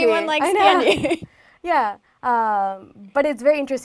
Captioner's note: laugh